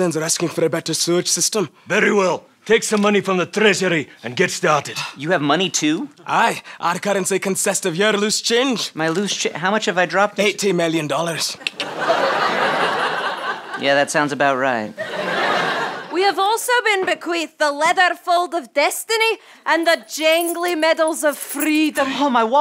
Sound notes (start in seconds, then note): 12.1 clicks tongue